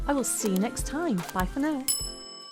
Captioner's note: bell dinging